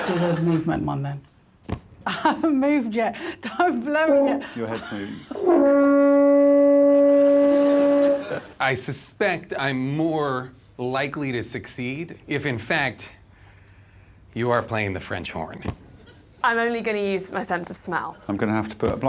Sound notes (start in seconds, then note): 5.3 blows; 5.3 plays horn